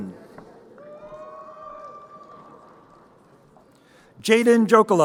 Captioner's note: crowd cheering